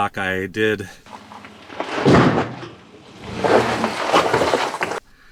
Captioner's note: crunching